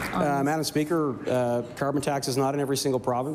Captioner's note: some Applause